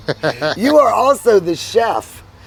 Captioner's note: laughs